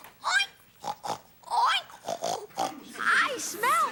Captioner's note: Ethan oinking and snorting